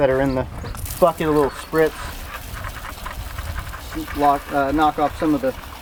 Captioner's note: water spraying